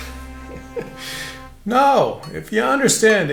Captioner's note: laughs